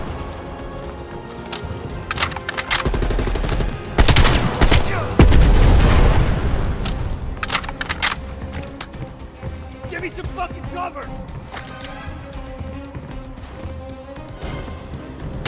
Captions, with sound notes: (gunshots) - Give me some fuckin' cover!